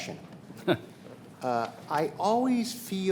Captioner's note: chuckling